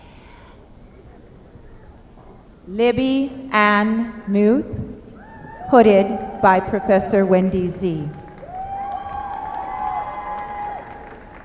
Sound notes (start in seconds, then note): 8.0 applause